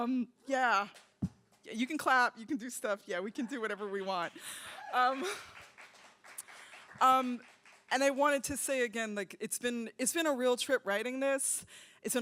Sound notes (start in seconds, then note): 4.2 applause